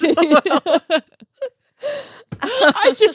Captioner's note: laughing